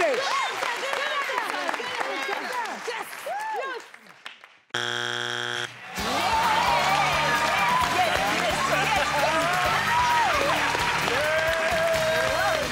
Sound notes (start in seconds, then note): 4.8 beep; 5.8 cheering; 6.3 clapping